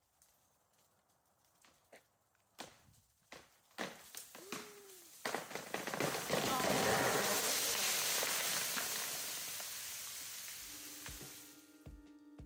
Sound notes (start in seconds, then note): 3.3 tree branches cracking; 7.7 foliage rustling